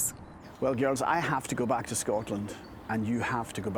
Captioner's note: with Scottish accent